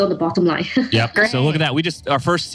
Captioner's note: laughs